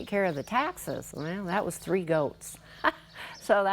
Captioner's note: chuckles